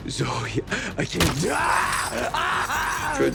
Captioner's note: chain rattles; Sameer screaming; screams